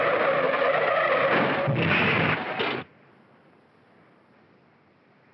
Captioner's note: tires squealing; loud bang & crash